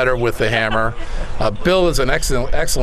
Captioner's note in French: laughter